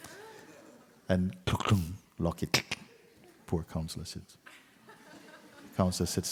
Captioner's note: laughter